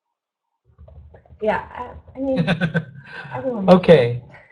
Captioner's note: laughs